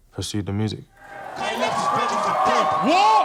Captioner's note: crowd cheering